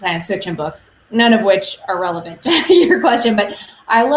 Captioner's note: laughs